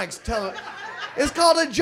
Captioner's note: audience laughs